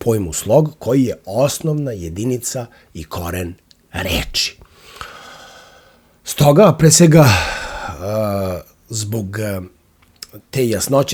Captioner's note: sigh